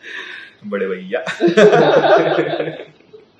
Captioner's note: Laughter